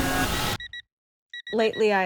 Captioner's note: beeping